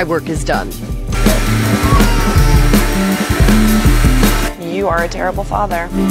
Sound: loud vacuuming

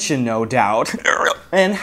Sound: frog croak

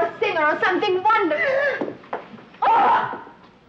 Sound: Petronella gasps

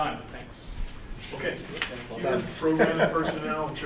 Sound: laughs

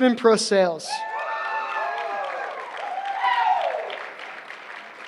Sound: cheering

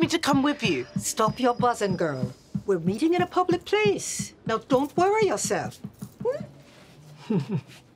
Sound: laughs

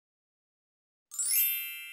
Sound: chimes

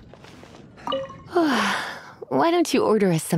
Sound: yawn

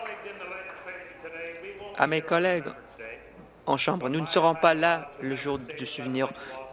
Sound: applause

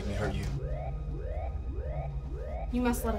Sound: alarm blaring

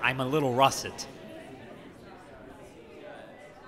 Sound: chattering

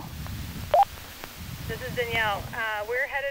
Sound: walkie beeps

